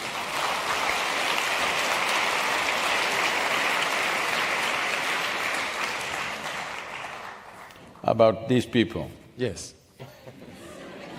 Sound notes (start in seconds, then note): 4.4 applause; 9.9 few laugh